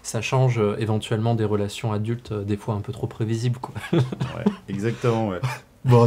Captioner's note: laughs